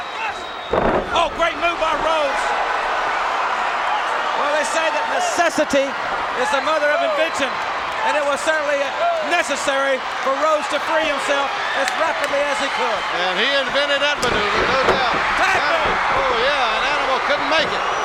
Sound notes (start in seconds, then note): 0.6 body slams; 2.4 crowd cheer; 17.8 crowd shout